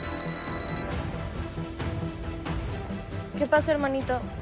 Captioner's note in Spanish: Suena el celular